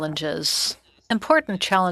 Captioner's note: speaking french